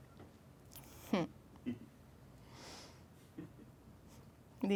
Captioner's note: chuckling